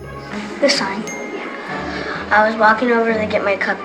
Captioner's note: ding sound